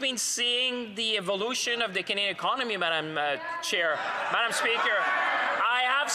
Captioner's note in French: voix de l'interprète